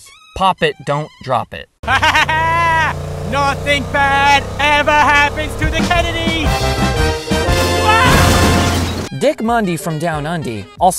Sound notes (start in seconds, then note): 1.8 laughter; 8.0 gunshot, JFK fucking dies